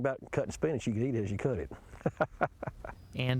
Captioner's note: laughs